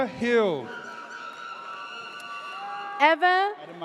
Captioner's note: audience cheers